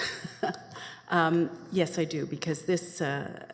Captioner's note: laughs